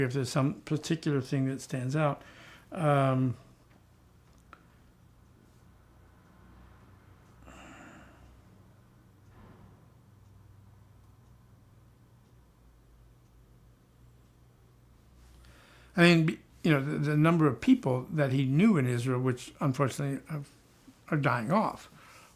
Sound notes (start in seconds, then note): 4.3 pause